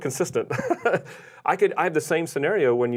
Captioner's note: laughing